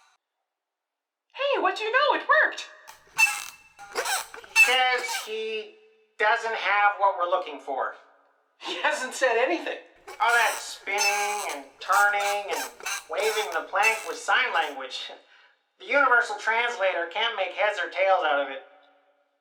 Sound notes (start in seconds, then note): 2.8 continuous squeaking